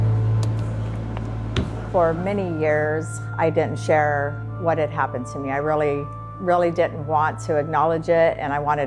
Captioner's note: thud